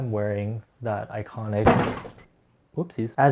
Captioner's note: crash